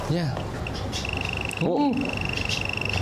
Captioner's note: bird calls